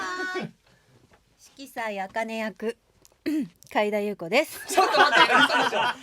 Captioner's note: ahem